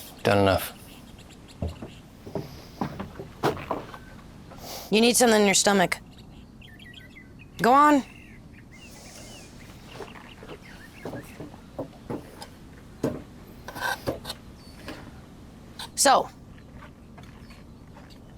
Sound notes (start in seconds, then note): 3.9 snorts